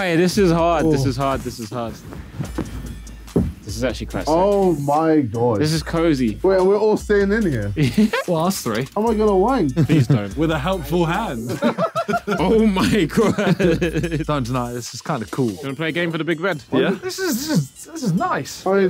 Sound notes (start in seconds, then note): 11.4 laughing; 11.4 all laughing